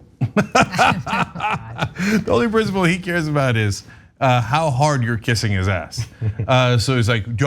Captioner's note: laugh